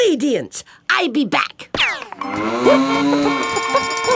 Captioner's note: cow moos, chicken clucks, horn honks